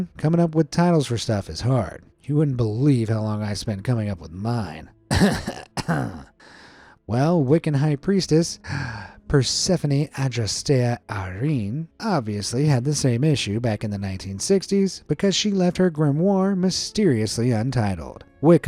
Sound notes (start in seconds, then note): 5.1 narrator coughing